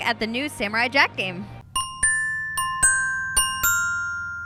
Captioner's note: bells ring